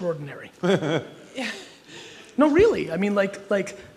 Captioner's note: laughter